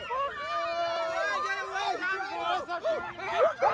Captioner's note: screaming